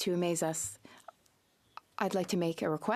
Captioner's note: speaking French